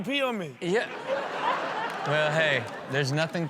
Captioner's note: audience laughs